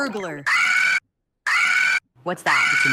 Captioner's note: alarm blaring